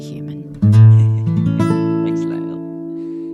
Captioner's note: laughs